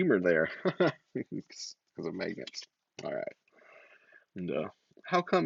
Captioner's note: laughs